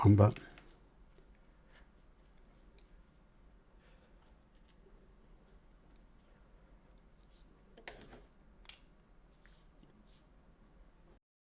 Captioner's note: silence